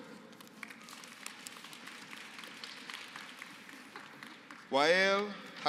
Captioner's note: applause